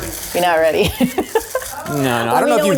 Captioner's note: laughs